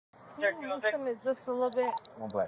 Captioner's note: radio chatter